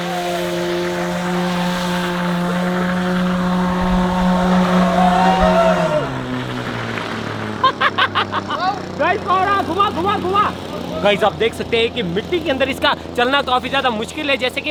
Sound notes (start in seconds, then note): 7.4 laughing